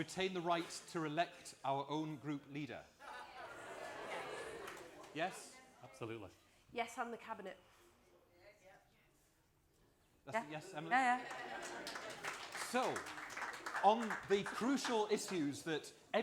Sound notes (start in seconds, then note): 4.6 applause